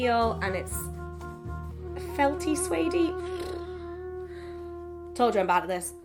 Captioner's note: sighs